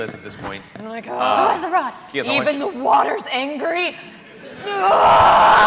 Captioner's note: screams